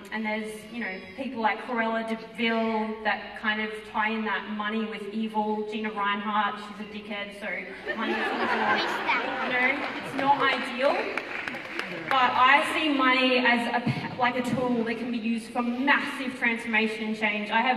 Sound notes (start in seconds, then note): 7.8 audience laughter